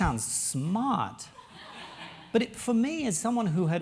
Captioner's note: laugh